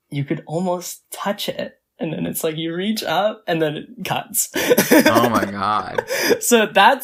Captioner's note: laughs